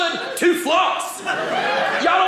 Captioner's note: audience laughing